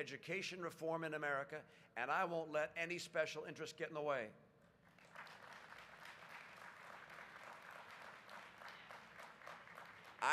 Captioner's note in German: Applaus